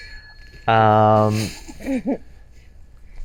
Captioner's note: bell ringing